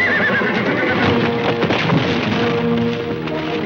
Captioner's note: horse neighing; horse crashing